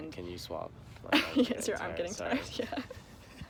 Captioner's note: laughs